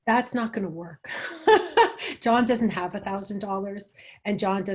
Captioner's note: chuckles